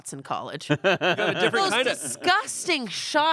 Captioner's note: laughs